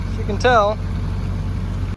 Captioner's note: water splattering